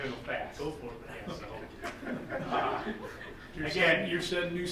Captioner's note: group chuckling